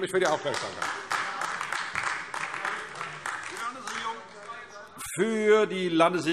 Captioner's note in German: Beifall AfD